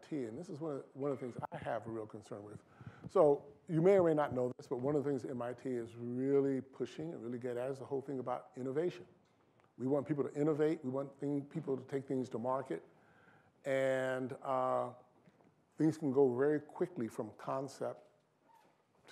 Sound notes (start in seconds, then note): none